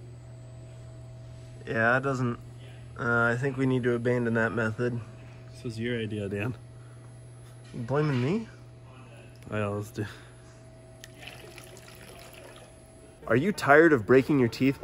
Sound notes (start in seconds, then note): 11.0 liquid splashes